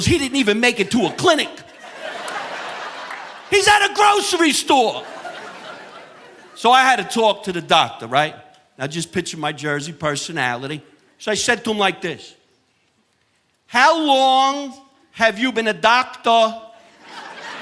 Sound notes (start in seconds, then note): 2.3 audience laughing; 16.9 audience laughing